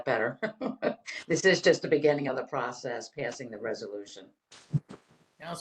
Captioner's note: laughter